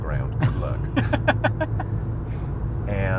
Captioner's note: laughs